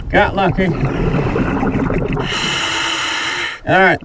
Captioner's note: water burbling; regulator hissing